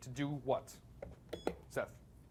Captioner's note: beep